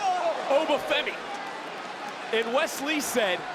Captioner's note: crowd cheers